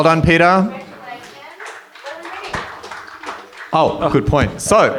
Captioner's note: light applause